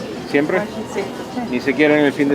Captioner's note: in Spanish